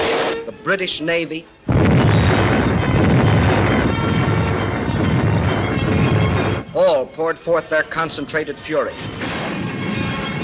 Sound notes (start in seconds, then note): 1.6 bombs exploding